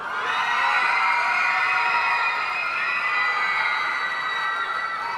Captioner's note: audience cheering and applauding